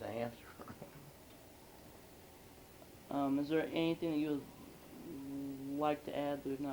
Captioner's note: laughs